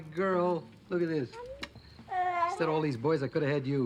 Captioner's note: coos